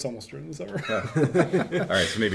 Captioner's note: men laughing